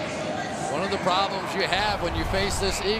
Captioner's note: pa announcement